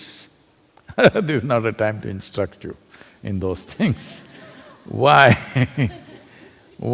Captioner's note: laughs; laughter